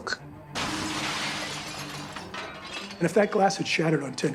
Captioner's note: glass shatters